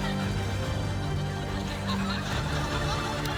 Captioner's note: laughter